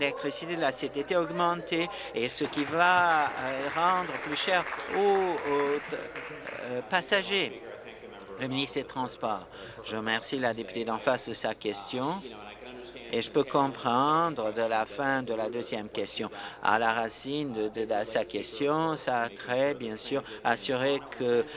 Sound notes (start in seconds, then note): 5.7 applause